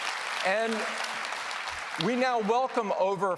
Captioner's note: applause